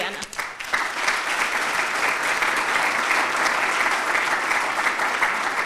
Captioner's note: audience applauds